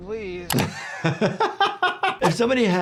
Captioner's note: doctor laughs